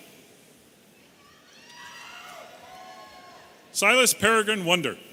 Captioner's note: audience cheering